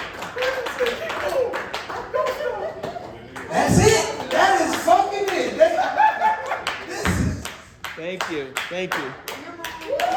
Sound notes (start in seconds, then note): 5.6 audience laughing; 5.6 laughing